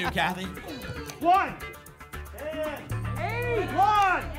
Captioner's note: audience shouting numbers